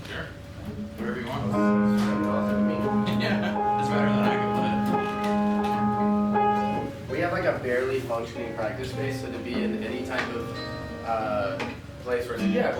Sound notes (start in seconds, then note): 2.9 laughing